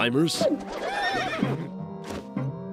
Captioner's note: whinnies